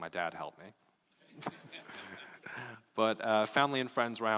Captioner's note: laughing